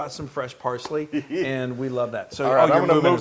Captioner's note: laugh